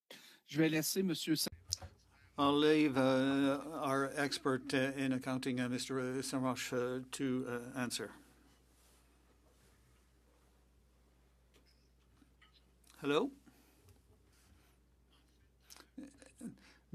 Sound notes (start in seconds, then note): 5.6 speaking French